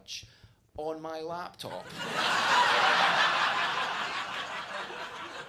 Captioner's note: audience laughs